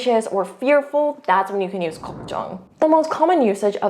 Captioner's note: bubble bursting; speaking in Korean